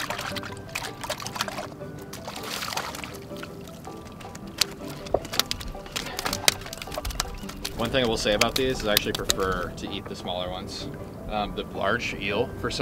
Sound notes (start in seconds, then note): 4.2 fish knocks